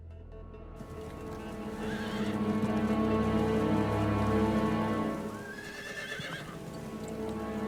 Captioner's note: dramatic music continues; horses whinnying